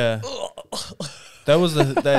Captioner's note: laughing